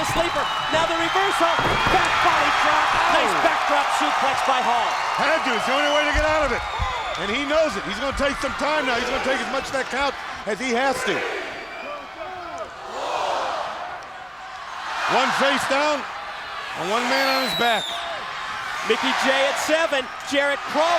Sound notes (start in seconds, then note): 12.5 crowd cheering